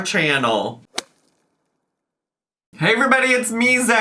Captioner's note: air whips